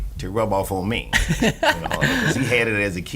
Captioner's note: laughing